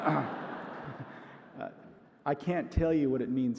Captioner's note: audience laughs